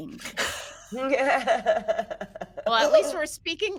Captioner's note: laugh